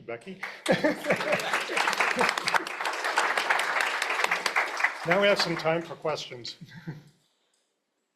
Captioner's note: applause